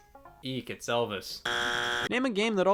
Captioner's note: buzzer buzzing